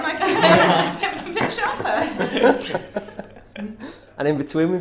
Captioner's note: laughter